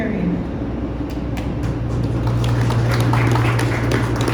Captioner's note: clapping